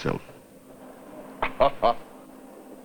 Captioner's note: chuckling